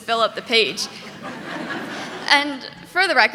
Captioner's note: audience laughing